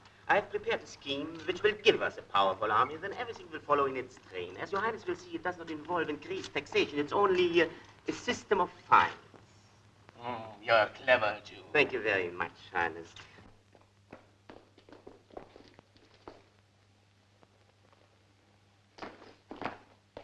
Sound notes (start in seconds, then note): 15.0 floor pattering